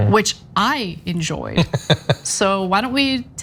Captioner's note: laugh